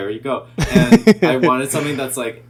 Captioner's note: laughing